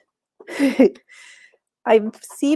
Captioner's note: chuckles